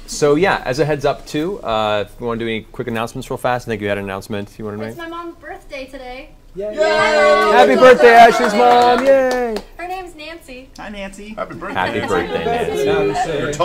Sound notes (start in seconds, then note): 6.6 all cheer